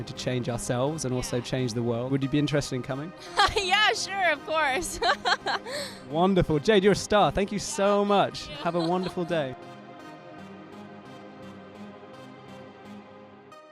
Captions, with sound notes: to change ourselves and also change the world, would you be interested in coming? - (laughs) Yeah, sure, of course! - Wonderful, Jade, you're a star, thank you so much. Have a wonderful day. (calm techno music)